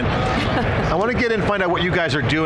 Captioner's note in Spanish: Risas